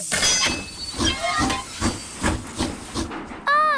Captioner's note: train chugs